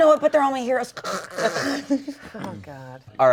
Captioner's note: snores and laughs